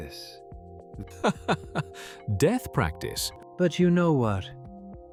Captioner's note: laughing